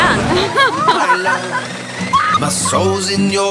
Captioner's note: laughs